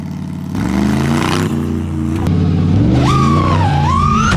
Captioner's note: engine roaring; drone squealing